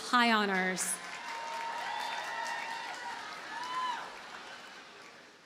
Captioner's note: audience cheers and applauds